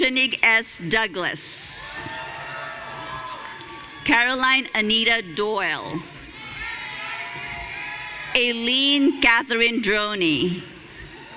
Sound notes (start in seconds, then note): 1.6 audience cheering